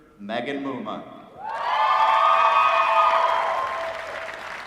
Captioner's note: applause